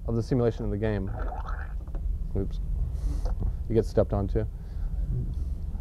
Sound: squish

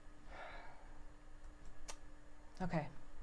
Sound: exhales

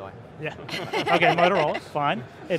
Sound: laughter

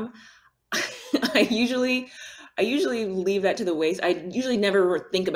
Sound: chuckles

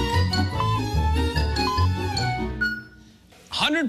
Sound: electronic beeping

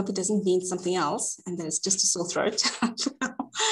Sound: laughs

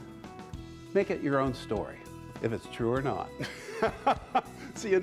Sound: laughs

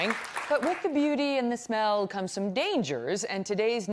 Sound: applause

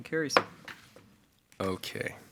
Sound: gavel pounds

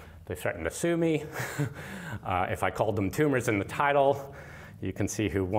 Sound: laughter

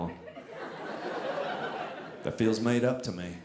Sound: audience laughing

